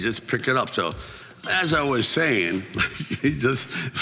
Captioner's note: chuckling